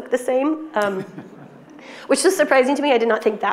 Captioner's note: attendees and host laughing